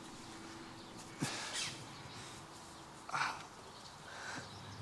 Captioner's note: Noah exhales